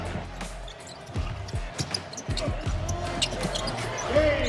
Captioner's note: upbeat music; shoes squeaking